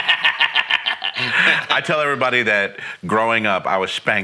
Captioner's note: laughing